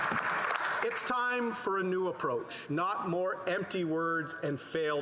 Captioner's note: some applause